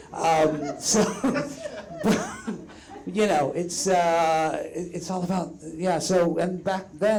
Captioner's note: chuckles